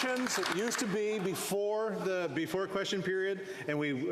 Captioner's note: applause